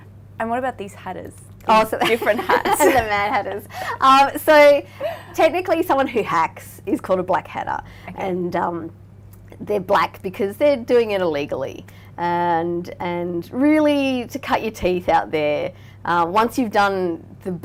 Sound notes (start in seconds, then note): 3.8 laughing